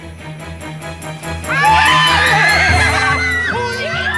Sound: screaming

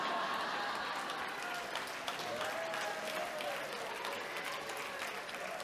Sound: audience cheering and clapping

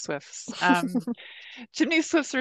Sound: laughing

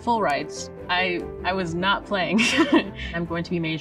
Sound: laughs

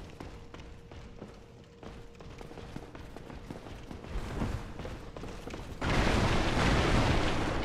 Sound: knight with sword and shield footsteps

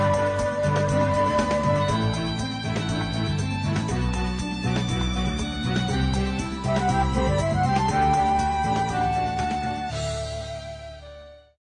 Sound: clap

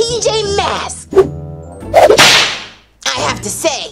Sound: whip cracks

